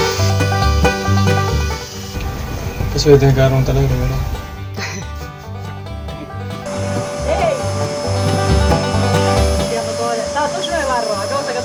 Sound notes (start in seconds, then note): 4.5 laugh